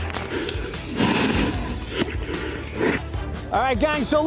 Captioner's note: mask breathing